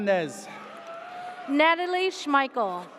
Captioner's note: audience cheers